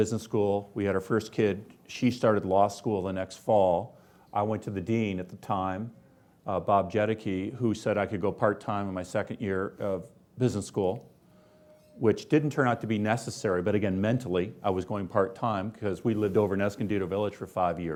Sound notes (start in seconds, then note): none